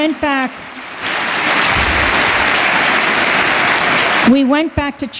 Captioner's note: applause